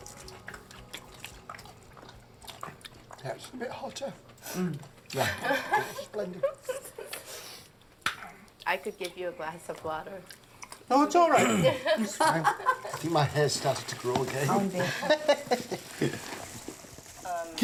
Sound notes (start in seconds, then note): 7.9 laughs; 11.4 clears throat; 14.6 laughs